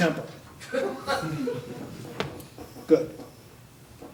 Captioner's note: audience laughing